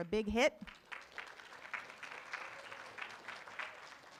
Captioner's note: room applauds